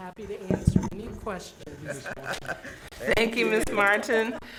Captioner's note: chuckling